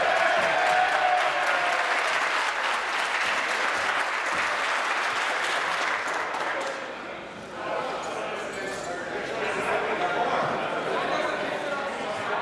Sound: applause

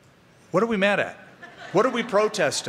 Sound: laughter

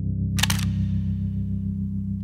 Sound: shutter sound

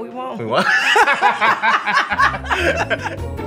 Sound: laughs; upbeat music

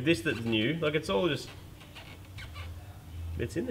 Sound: squeaking

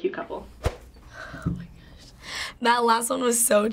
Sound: quietly

